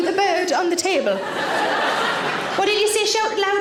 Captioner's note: audience laughing